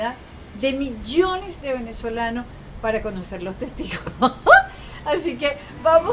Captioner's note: laugh